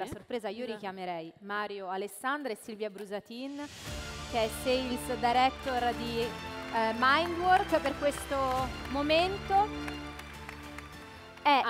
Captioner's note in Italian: Applauso